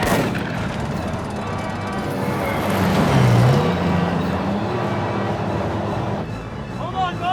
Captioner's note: tank machine gun booming; tank rattling; tank engines whirring